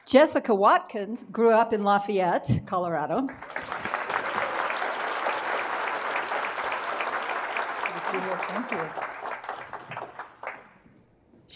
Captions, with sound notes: Jessica Watkins grew up in Lafayette, Colorado. (audience applauding) - Have a seat here. - Thank you.